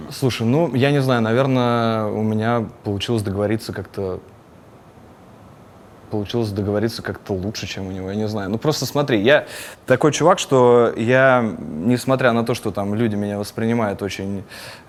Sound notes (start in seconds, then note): none